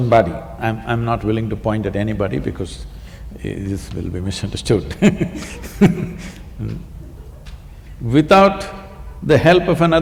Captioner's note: laughs